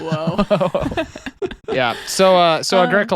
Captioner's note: laughing